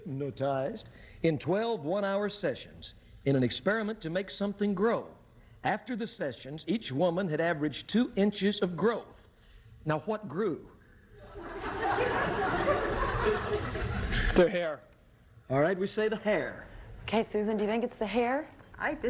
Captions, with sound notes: hypnotized in 12 one-hour sessions, in an experiment to make something grow. After the sessions, each woman had averaged two inches of growth. Now, what grew? (laughter) -Their hair. -All right. We say the hair. -Okay, Susan. Do you think it's the hair?